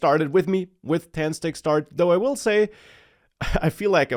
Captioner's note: laughs